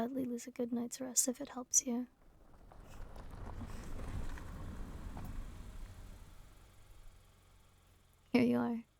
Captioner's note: sounds of car pulling up